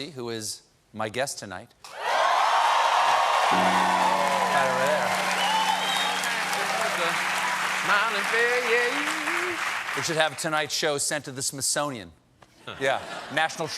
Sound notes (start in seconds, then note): 1.9 cheers and applause; 3.5 piano riff